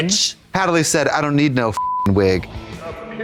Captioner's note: beep